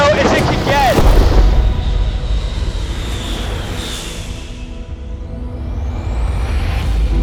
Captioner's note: dramatic music; plane engine roaring